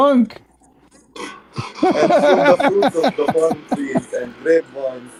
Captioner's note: Ketawa